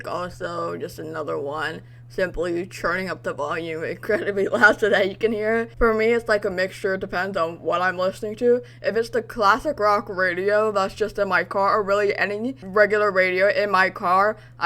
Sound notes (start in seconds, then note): 5.4 laughs